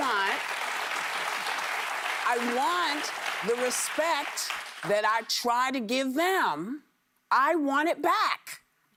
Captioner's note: applause